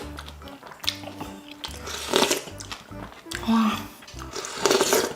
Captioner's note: inhale